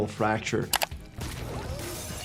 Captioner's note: mouse clicking; glass shattering